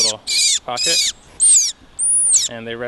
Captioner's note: bird making noise